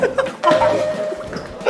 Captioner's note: uncontrollable laughter